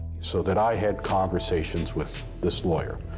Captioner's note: camera shutter click